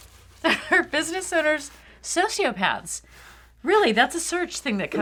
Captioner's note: laughing